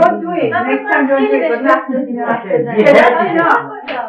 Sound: speaking Farsi

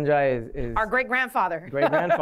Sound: laughter

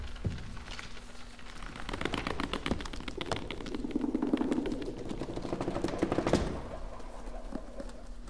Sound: pages turning

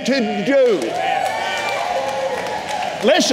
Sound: congregation cheering

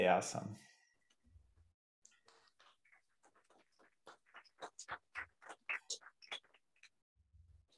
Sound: applause

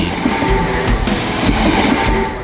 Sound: sound of train

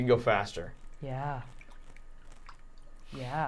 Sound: water splashing softly

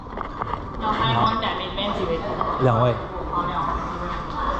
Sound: waitress speaks in Chinese

